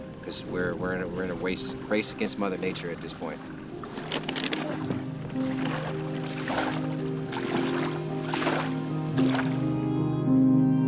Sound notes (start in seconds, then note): 7.1 waves lapping